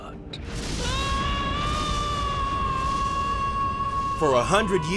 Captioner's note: screaming